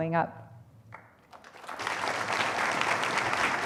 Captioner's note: applause